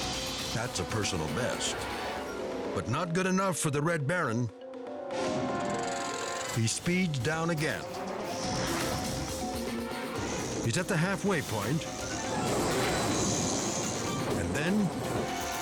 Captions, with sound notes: That's a personal best, but not good enough for the Red Baron. (dramatic music continues) He speeds down again. He's at the halfway point, (tires rumbling) and then,